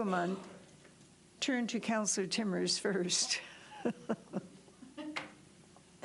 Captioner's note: laughs